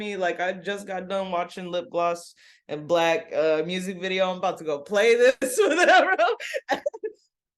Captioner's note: laughs